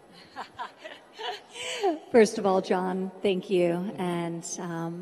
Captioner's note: laughs